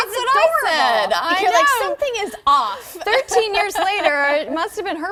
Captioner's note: laughter